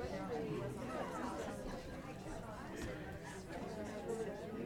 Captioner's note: people chattering